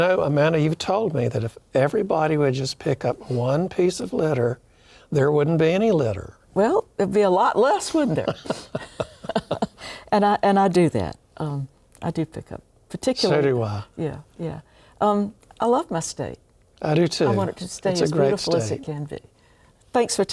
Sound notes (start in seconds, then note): 8.1 laughing